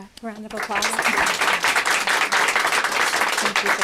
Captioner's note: applause